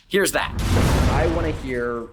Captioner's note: lightning zapping